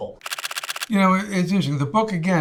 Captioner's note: photos clicking